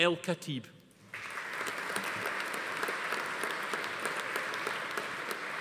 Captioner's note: audience applauding